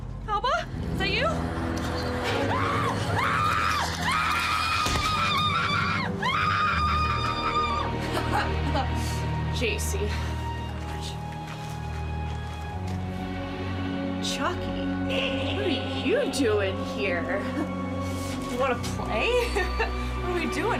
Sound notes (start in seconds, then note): 0.3 screams; 6.0 screams; 8.4 laughs